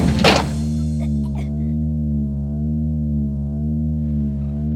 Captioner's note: woman gags